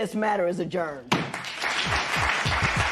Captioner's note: applause